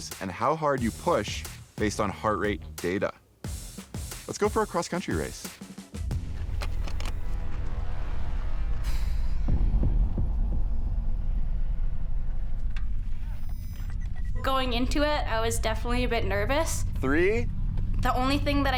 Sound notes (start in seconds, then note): 6.0 tense suspenseful music; 8.8 exhales deeply